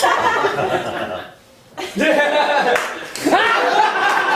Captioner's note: audience laughing